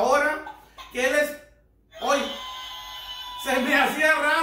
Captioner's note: rooster crowing